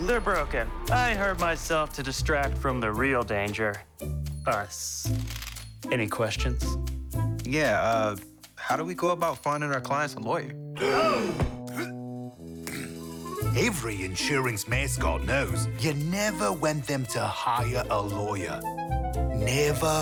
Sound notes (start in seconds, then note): 10.8 mascots gasp; 10.8 Lizard King grunts